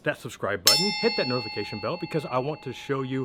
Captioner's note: bell dings